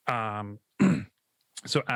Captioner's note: clears throat